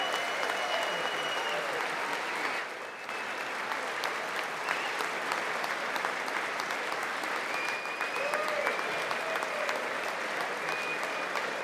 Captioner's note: applause